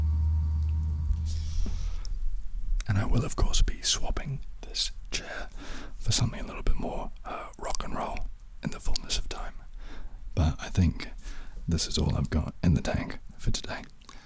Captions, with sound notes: [whispers] And I will of course be swapping this chair for something a little bit more uh, 'Rock n' roll', in the fullness of time But, I think, this is all I've got in the tank, for today.